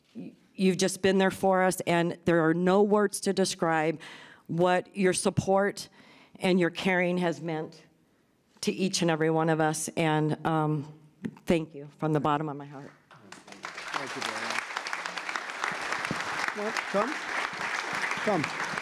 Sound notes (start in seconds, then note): 13.0 applause